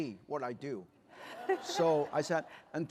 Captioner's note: laughter